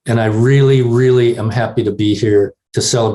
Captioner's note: none